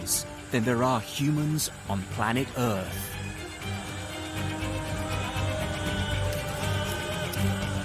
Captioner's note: dramatic music continues; insects buzzing